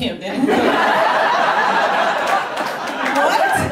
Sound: roaring laughter

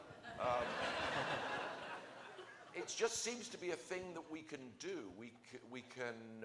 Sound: laughter

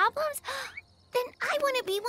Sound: gasps

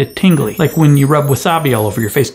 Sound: bells chime

